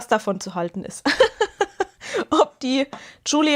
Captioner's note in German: Gelächter